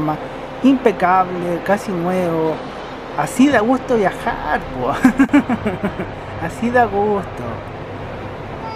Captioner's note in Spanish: risas